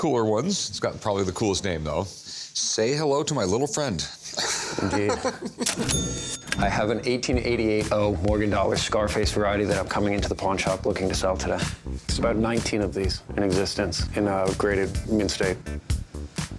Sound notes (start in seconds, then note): 4.4 laughs; 5.7 ca-ching